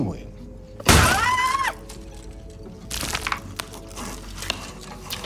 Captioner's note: sound of screaming